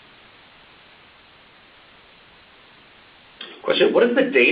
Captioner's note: silence